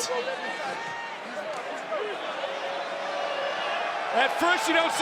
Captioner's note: audience cheering